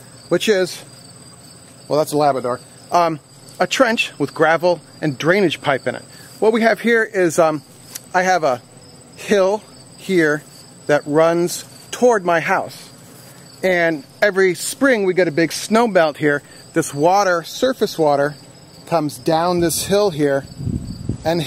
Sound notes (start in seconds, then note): none